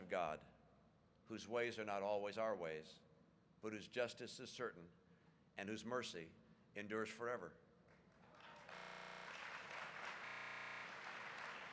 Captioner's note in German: Applaus